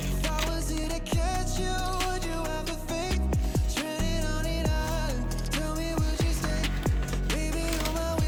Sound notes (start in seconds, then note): 4.5 thump thump